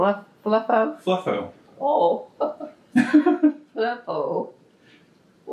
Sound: laughs

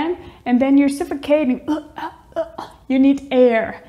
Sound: chokes

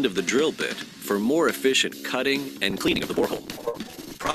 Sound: audio interference

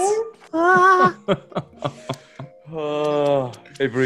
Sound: laugh

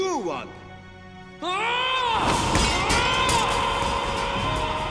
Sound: yelling

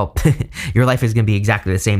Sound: giggling

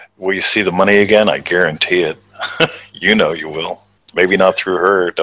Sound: chuckles

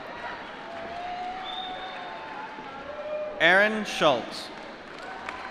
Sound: applause

